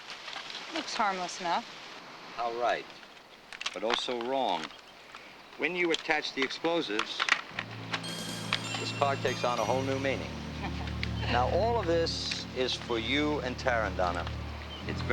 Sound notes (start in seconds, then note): 9.3 upbeat music; 10.6 Donna chuckling